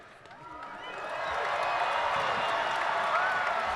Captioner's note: applauding